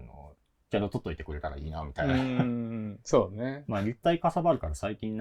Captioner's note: laugh